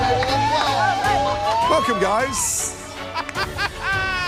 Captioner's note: laughs